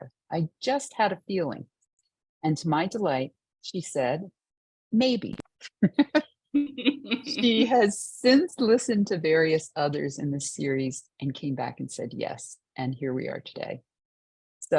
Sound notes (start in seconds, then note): 6.9 laughing